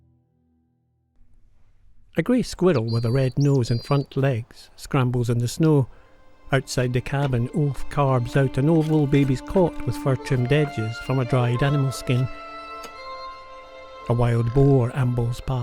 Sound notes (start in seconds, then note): 2.4 birds chirping; 6.7 violin music plays